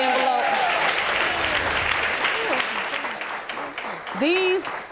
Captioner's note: audience applauding